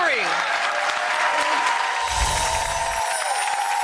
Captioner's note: applause